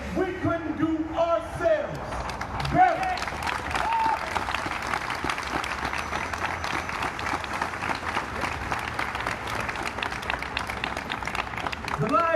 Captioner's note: audience applauds